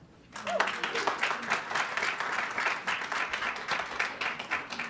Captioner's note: audience clapping